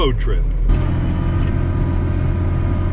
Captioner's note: tractor sound